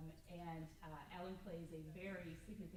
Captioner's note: none